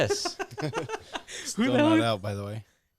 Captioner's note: laughing